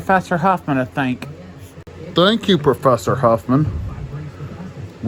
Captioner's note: sarcastically